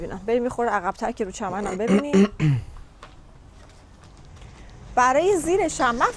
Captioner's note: clears throat